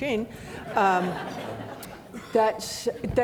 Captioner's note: audience laughing